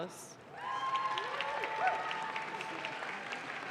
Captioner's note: audience claps